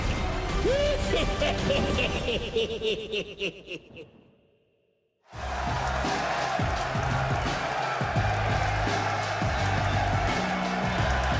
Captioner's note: laughs